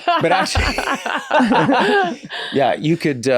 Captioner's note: laughs; Glenn and Rob laugh